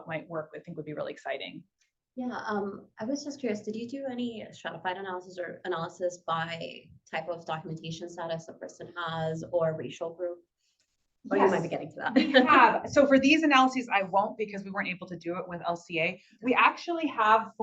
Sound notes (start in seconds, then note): 12.1 laugh